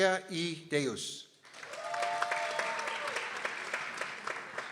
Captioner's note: people cheering